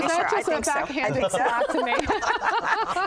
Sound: laughter

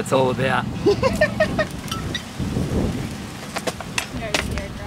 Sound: laughs

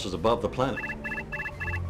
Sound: alarm

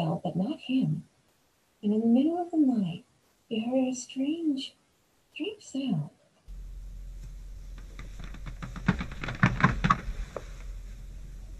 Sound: creepy floor creaking

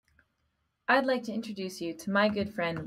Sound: voiceover

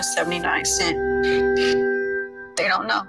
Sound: TV glitching

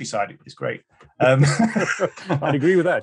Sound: both laughing

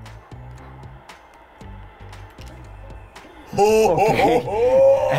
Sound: energetic music; crowd cheering; both laughing

